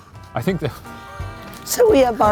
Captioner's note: laughs